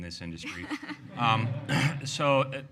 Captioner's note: laughs